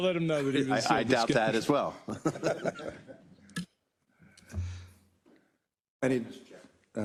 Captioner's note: laugh